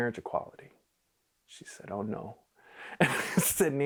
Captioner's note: laughing